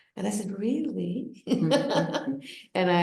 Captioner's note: laughs